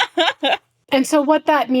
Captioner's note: laughing